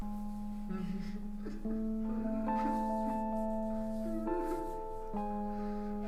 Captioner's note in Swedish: gråter